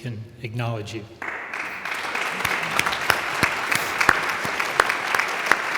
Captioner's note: audience applauds